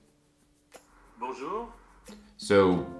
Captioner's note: male Voice